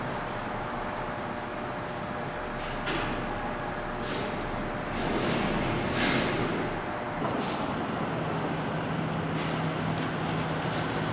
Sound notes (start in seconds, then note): 3.9 elevator closes